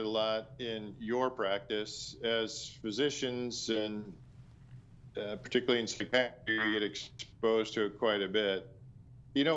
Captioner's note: audio cutting out